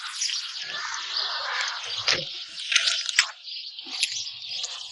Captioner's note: birds chirping